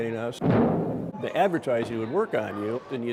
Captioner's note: cannon booms